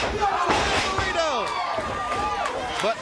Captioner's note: crowd cheering